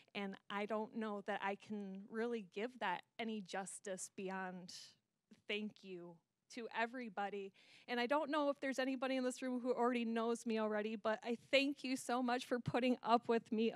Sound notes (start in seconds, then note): none